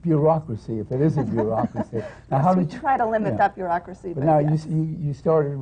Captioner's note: laughs